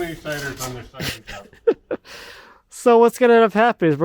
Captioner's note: laughing